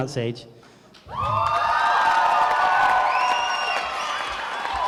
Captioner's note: crowd cheering